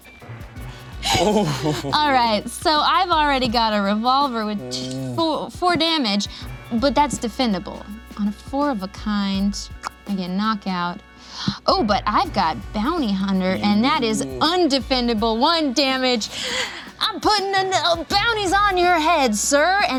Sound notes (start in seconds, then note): 1.0 laughs